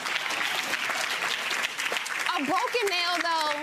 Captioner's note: gallery laughs and applauds